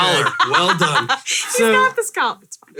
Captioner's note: laughing